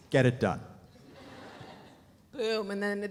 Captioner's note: audience laughs